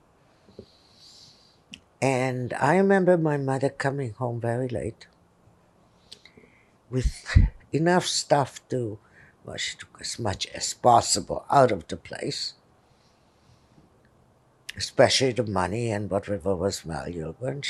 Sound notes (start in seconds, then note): none